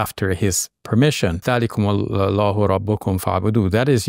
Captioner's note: talks Arabic